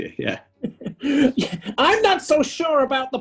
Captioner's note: laughing